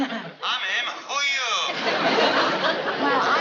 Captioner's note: on phone